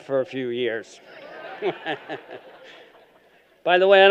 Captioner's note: laughter